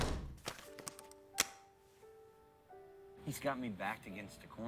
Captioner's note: door opening, closing